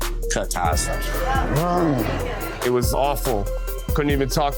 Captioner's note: grunts